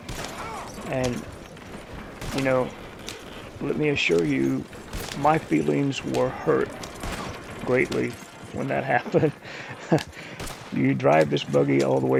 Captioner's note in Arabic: يضحك